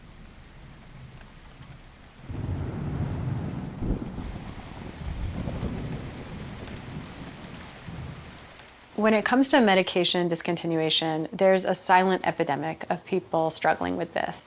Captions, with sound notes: [RUMBLING THUNDER AND FALLING RAIN] When it comes to medication discontinuation, there's a silent epidemic of people struggling with this.